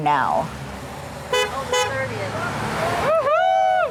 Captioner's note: horn honks